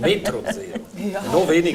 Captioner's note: laughs